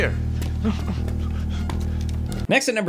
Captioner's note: whimpers